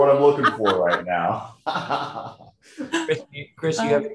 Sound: laughing

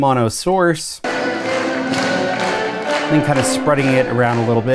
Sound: clapping and upbeat music

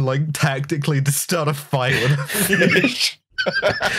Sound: laughter

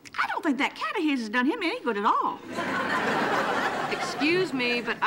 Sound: audience laughing

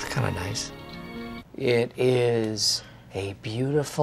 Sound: speaking soothingly

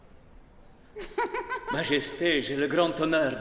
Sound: Elizabeth giggles

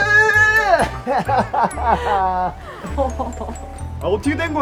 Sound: Gwang-hee laughing in joy

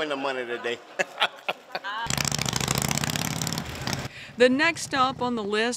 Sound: laughs; motorcycle engine roaring

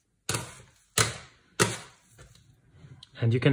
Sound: utensil clattering

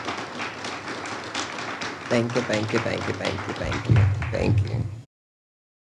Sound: audience applauds

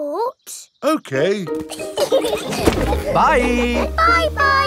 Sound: laughing

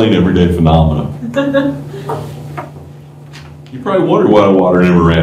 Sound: laughter

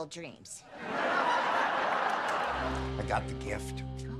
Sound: audience laughing

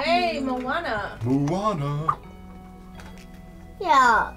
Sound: sing-song

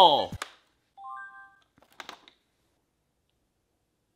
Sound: boy grunts; diary chimes

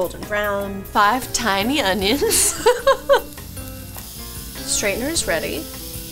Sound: laughs

